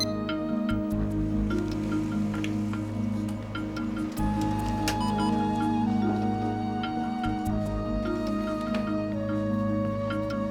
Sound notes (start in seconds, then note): 4.9 beeps